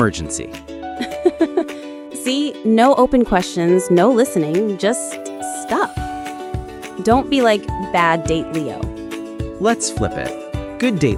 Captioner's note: laughs